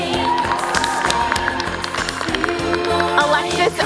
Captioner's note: applause